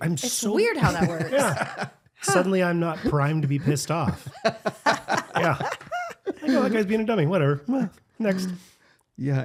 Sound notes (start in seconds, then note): 4.6 laughing